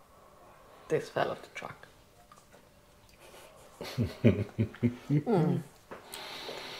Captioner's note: laughing